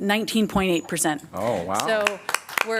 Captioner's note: applause